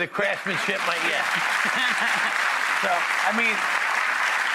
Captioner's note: applauding